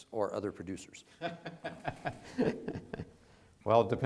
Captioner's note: laughs